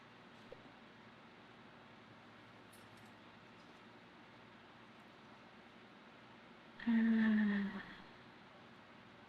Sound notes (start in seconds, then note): 6.8 sighs